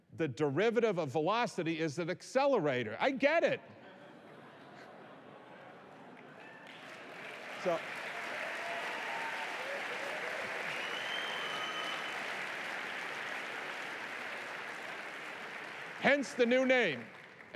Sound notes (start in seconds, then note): 6.6 applause